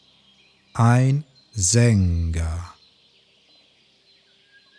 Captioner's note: german